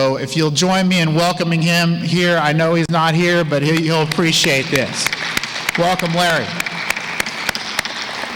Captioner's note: applause